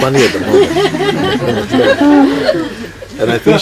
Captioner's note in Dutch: meer gelach